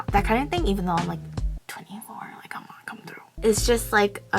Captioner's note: whispers